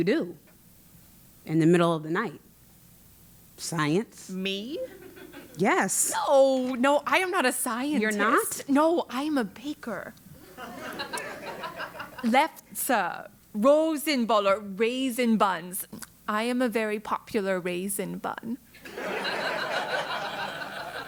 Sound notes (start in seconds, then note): 10.4 laugh; 18.9 laugh